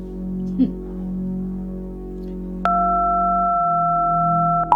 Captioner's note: beeping